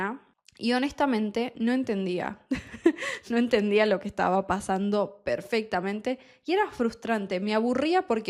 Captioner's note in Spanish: risas